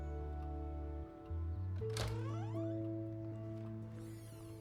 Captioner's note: door opens and closes